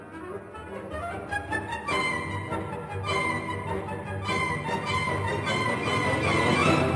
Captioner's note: none